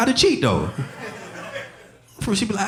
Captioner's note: audience laughing